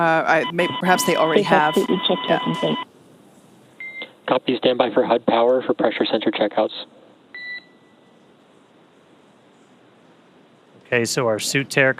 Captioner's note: beep